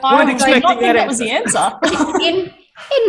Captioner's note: laughs